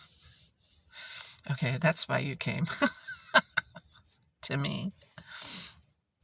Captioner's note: wry laugh